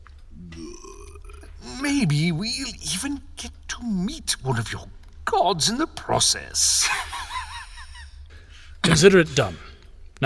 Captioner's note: laughs